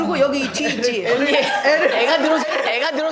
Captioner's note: scrub, scrub